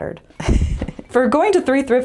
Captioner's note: laugh